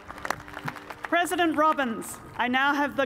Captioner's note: cheers and applause